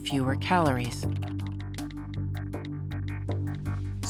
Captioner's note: phone keyboard clicking